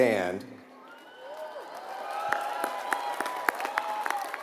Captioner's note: applause